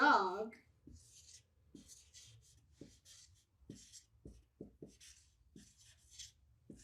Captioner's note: marker brushes against whiteboard